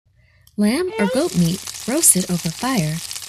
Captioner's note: meat sizzling